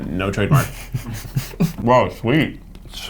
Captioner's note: giggles